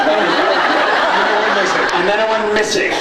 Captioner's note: laughs